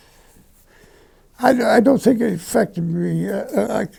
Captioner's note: sigh